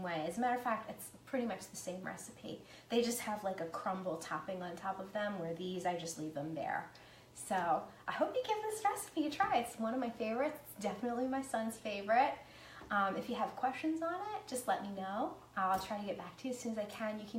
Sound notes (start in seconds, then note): none